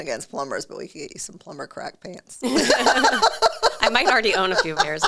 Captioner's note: both laugh